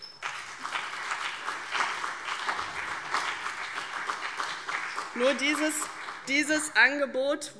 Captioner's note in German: Beifall CDU und BÜNDNIS 90/DIE GRÜNEN